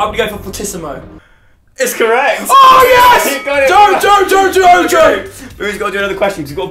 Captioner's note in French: cri